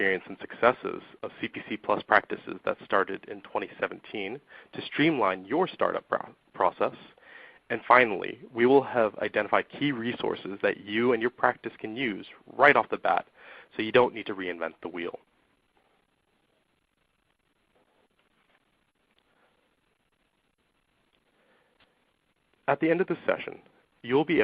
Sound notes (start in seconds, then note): 14.5 silence